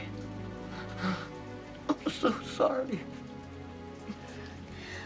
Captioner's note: sobbing